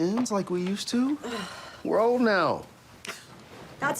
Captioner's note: sighs